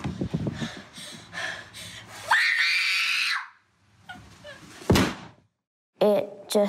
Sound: panting and crying

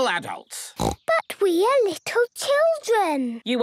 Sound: snorting

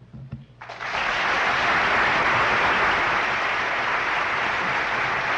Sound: applause

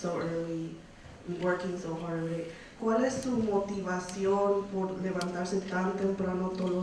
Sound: woman speaks in foreign language

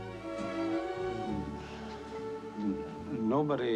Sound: moans

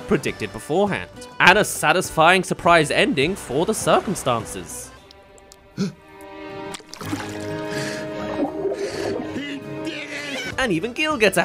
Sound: gasp* HE DID IT!

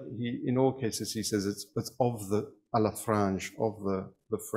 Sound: speaks in foreign language

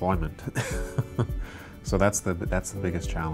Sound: laughs softly

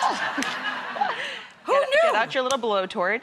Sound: audience laughs

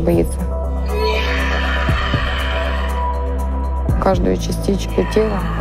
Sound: scream

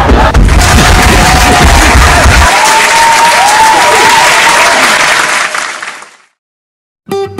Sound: crowd applauses

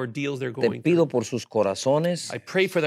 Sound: speaking in Spanish

